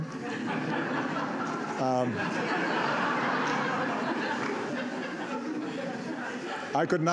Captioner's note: laughter